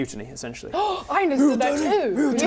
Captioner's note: gasp